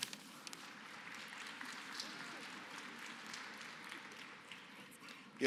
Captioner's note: applause